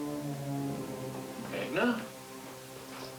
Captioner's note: concerned tone